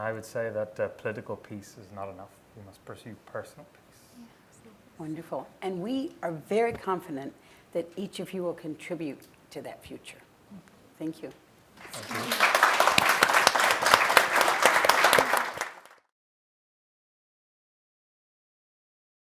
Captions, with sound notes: - And I would say that political peace is not enough. We must pursue personal peace. - Wonderful, and we are very confident that each of you will contribute to that future. Thank you. (applause)